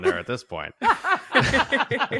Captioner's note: laughs